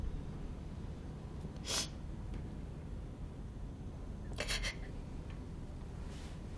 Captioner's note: sniffles, sobs